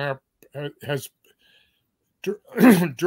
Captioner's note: cough